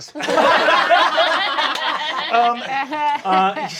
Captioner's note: cast laughing